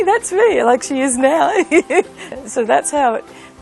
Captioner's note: laughs